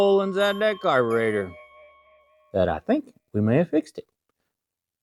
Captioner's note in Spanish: Bell Dings